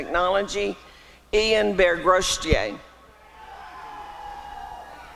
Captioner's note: applause and cheering